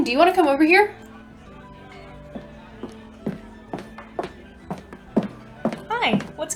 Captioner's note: raises voice; footsteps approaching